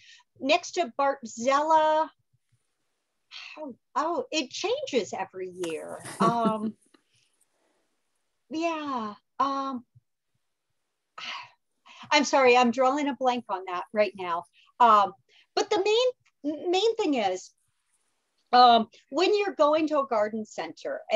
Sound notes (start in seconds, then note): 6.0 laughs